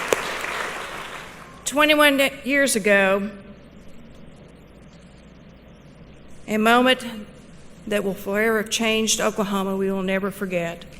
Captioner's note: applause